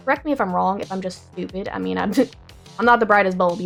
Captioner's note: laughs